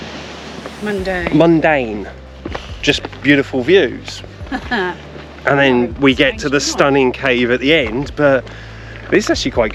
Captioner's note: laughs